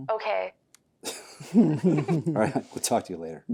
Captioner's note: William and Meredith laugh